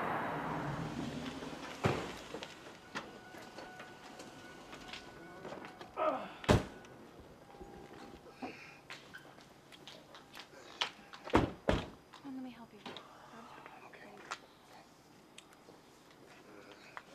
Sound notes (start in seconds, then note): 3.4 car door dinging; 7.9 man groaning